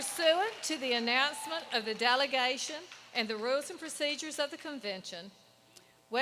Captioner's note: applause